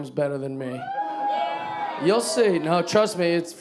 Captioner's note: audience cheering